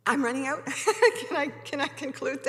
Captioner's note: laughing